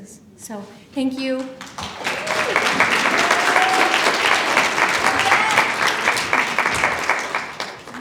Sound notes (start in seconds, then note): 1.3 applause